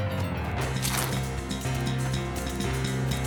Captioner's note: biting sound